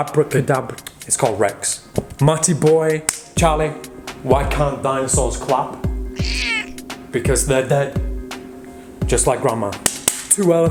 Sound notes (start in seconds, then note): 2.9 claps; 6.1 meows; 9.8 claps